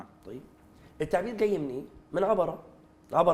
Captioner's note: in Arabic